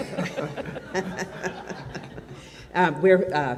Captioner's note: audience laughs